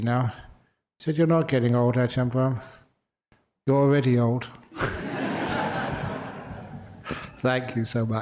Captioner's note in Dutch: lachen